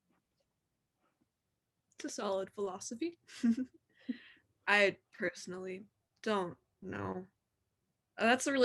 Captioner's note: chuckle